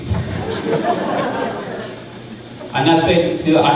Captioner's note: crowd laughing